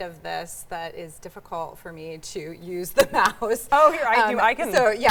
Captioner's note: laughs